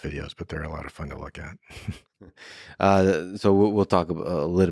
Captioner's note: laughs